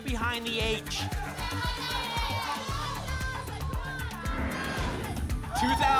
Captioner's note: audience shouting numbers